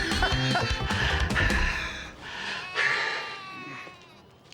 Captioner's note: heavy breathing